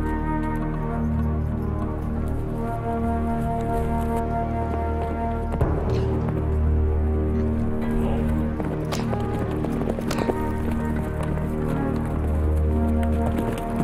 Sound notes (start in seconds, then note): 0.1 horse hooves; 7.8 chortles; 9.1 horses galloping